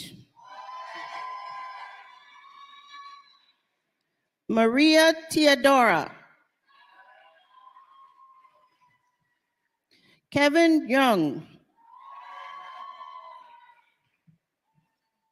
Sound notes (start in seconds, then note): 9.7 applause